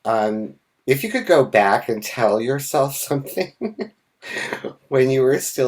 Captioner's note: laughs